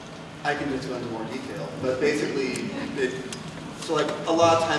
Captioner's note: laughter